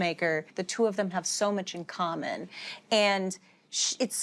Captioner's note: none